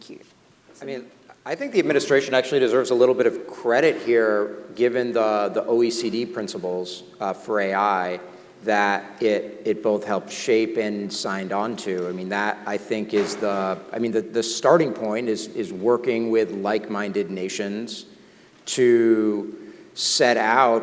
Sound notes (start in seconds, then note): none